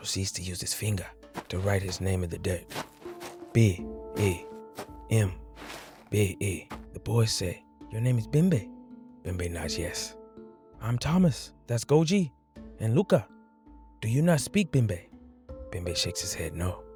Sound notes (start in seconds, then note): 2.9 dirt shuffles